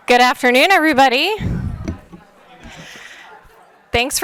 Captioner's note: attendees speaking faintly and laughing